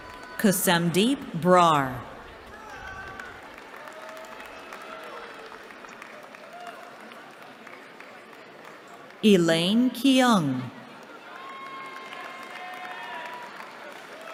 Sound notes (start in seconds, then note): 2.2 applause; 10.9 cheering